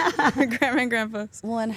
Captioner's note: Stephanie laughs